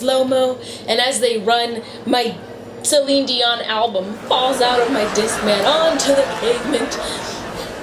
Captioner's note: audience laughter; laughter